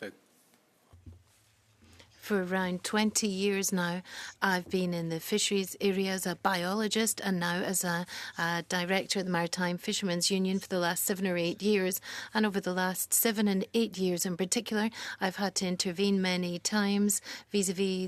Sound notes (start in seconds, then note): 6.2 speaking French